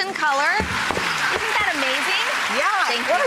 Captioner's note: applause